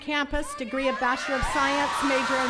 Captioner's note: attendees cheering